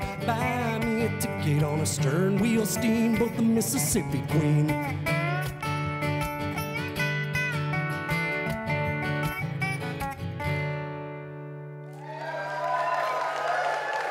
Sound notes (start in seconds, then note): 11.9 applause